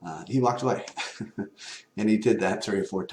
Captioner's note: laugh